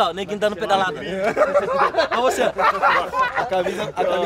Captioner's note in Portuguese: risadas